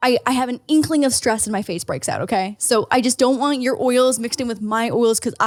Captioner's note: none